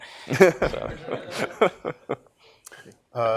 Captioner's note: laughter